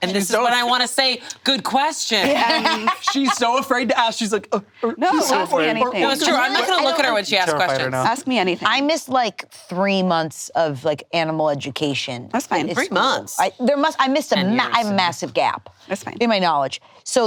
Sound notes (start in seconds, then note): 2.2 laughs